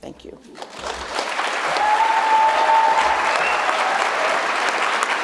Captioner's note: audience applauding